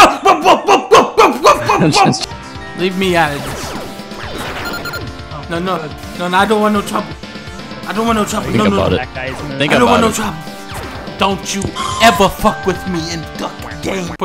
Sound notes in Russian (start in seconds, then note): 4.2 лазеры, сигнал, кряканье